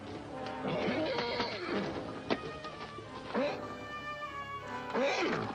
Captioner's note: horse whinnies